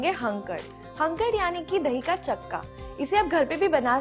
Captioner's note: hindi